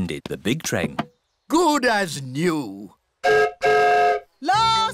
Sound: whistle blows

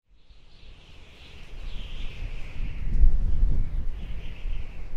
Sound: wind whistling

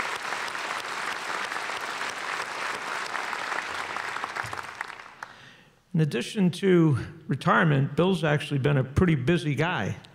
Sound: applause

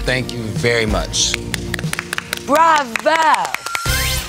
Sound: applause

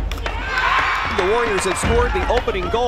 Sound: drums pounding; spectators cheering

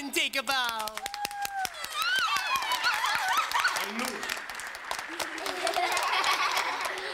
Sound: cheering, clapping, and laughing

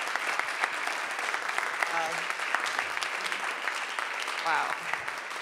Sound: audience applauding

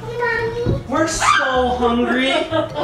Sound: screams

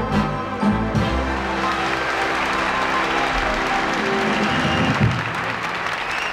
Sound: audience cheering and applauding

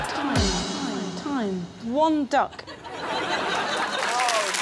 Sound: echoes

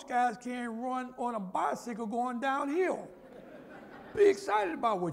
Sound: laughter

